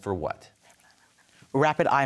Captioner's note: whispers